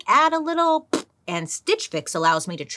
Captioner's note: blows raspberries